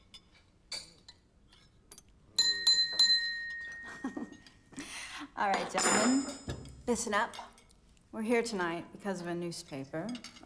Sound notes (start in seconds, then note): 2.4 glass dinging